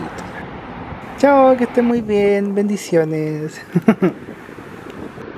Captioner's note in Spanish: risas